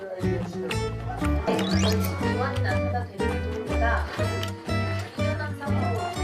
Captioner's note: Hanya ada suara TV dan mengunyah dalam kamar